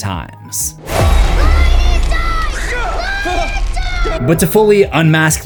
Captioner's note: screaming